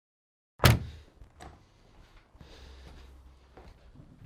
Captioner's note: door thuds